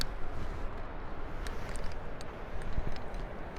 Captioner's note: wind blowing